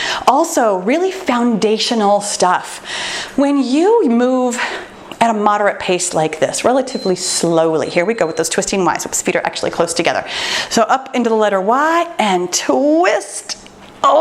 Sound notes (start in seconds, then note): 7.6 timer beeps